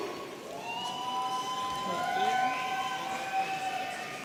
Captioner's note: audience cheering